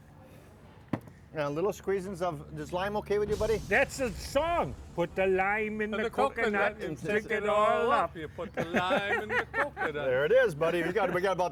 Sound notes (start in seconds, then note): 8.3 laughter